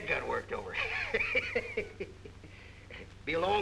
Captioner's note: laughing